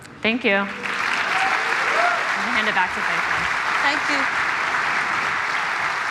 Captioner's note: applause